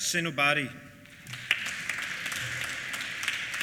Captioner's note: applause